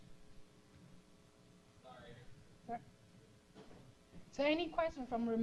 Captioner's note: pause